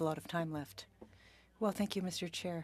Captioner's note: speaking French